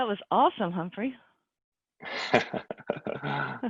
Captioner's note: laughs